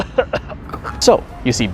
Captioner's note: laughs like Seth Rogen; starts choking